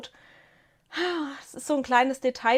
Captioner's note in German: seufzt